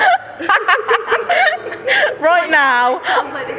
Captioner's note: laughing